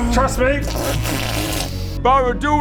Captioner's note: fart noises